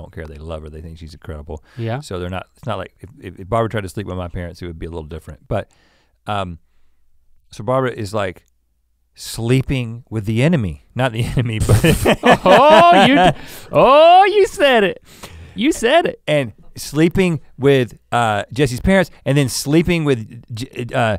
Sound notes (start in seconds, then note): 11.7 laughs